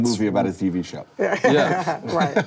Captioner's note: laughing